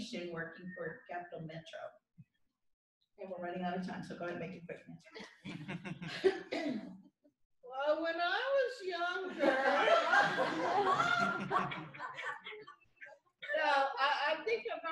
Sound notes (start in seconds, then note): 7.3 talking slowly; 9.2 laughter